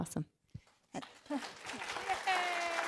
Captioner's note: applause